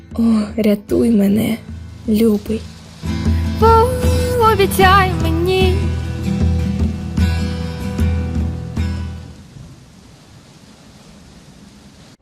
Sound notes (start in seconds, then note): 3.0 rain